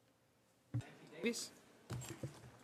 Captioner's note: speaking French